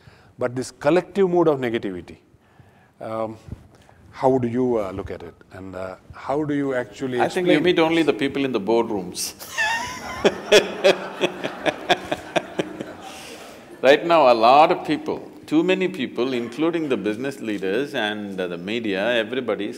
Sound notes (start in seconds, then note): 12.3 laughter